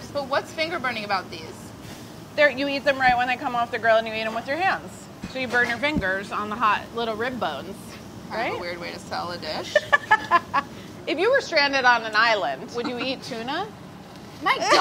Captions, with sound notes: But what's finger-burning about these? - You eat them right when they come off the grill and you eat them with your hands. So you burn your fingers on the hot little rib bones. Right? - Kind of a weird way to sell the dish. [laughs] If you were stranded on an island, would you eat Tuna? - My dog?